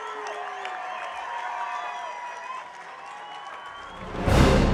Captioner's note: audience cheering